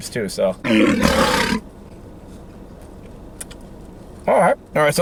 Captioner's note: tiger growling